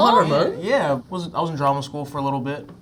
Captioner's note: mispronouncing